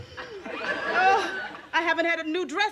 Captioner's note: moans